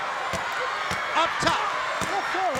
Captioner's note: crowd cheering; ropes banging